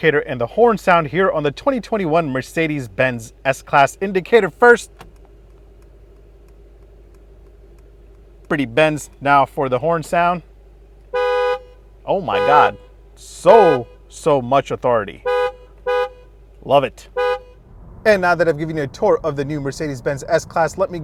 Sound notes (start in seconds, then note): 4.9 indicator ticking; 12.1 horn honking; 15.1 horn honking